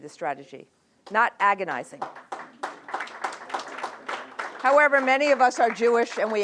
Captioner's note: applause